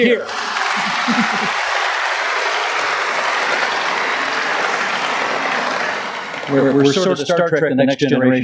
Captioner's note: applause